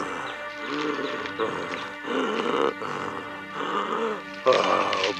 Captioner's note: gasping